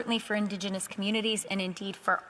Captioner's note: speaking FRENCH